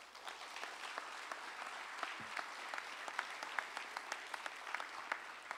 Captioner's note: applause